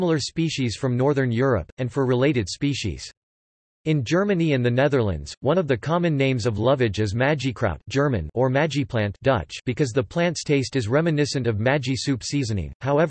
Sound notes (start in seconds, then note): 7.9 German